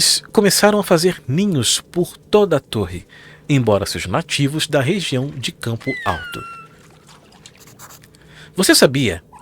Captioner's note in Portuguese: grito